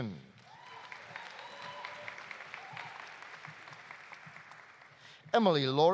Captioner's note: audience applauding; audience cheering